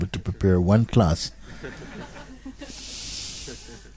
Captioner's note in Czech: smích